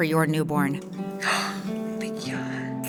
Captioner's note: mother gasps